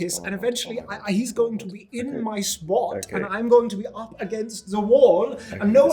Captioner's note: muttering